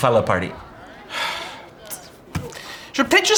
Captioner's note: Lys sighs